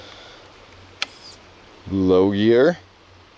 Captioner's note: squeaking